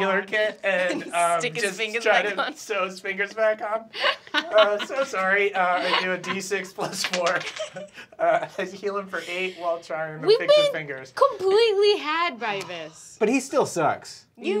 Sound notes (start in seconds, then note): 5.5 laughs